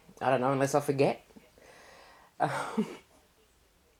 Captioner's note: laugh